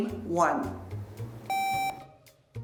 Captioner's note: buzzer beeps